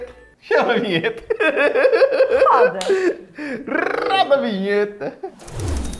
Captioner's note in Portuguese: risos